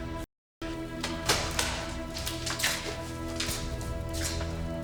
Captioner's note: boots scuffing